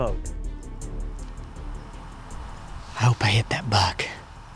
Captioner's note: whispering